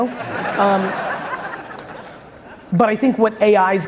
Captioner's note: audience laughs